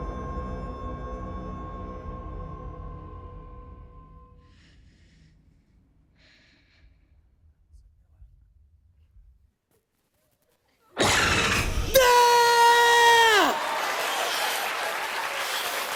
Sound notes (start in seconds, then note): 11.0 creature shrieks; 12.6 laughter, cheers, applause